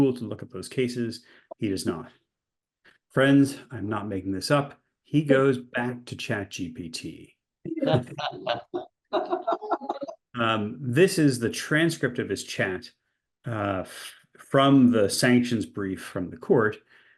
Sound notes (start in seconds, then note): 9.2 class laughs